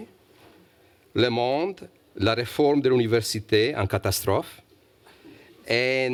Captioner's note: speaking french